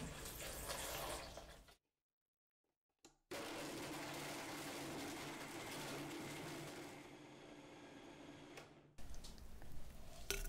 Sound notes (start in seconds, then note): 3.3 blender Sound